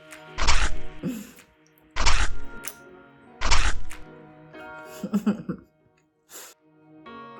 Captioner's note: soft chuckle; apple bites; soft chuckle; chipmunk laughing